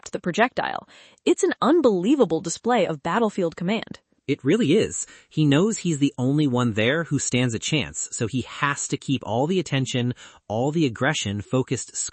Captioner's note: bonk!